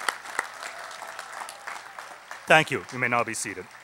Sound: applause

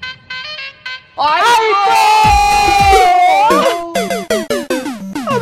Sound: shouting

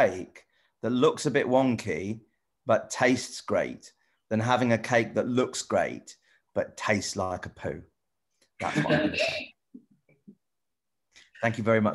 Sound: laughs

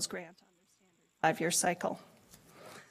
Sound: audio cuts out

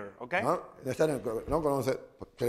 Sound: speaking spanish

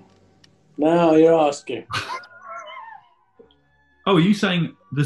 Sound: sniggering

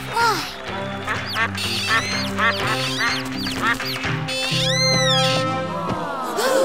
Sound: quacking

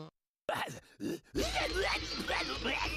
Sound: grumbles; grunting

